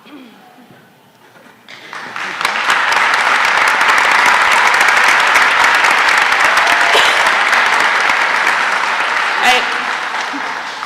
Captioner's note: applause